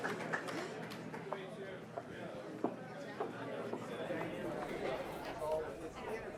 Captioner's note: audience chattering indistinctly